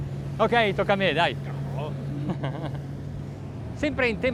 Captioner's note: laughs